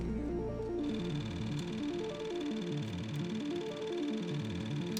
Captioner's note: projector whirring